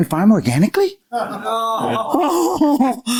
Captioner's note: laughter